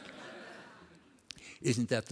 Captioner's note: laughter